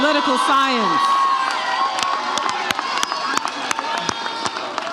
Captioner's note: audience cheers